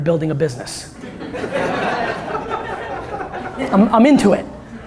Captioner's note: laughter from audience